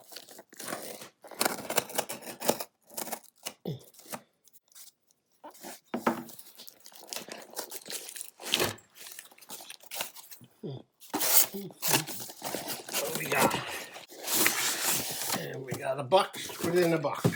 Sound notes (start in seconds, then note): 2.3 box opening noises